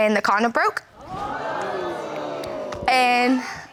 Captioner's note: audience gasps